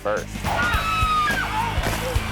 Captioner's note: person screams